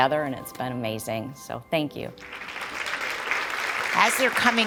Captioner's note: applause